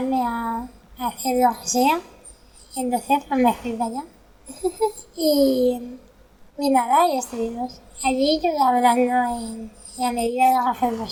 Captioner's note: laughs